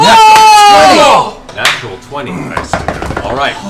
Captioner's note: cheering